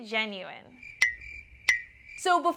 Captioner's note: crickets chirping